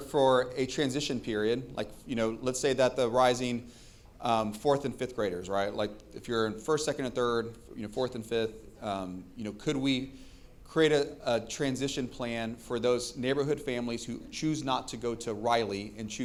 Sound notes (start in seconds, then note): none